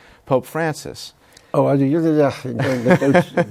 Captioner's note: laughs